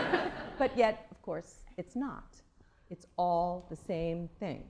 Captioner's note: laughter